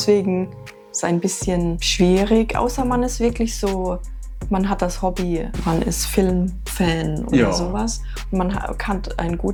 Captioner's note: laughs